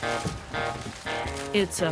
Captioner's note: bangboard thumps; cornstalks rustling